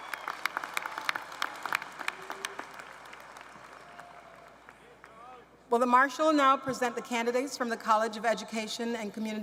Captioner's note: cheers and applause